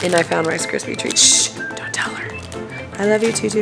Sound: shushes

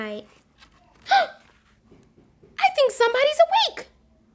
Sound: gasps

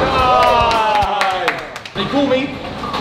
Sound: lads applauding

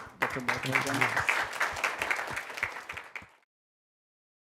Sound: applause

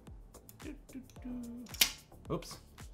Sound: humming

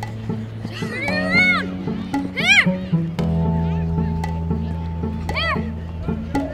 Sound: kids playing soccer

